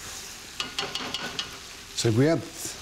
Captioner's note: spoon banging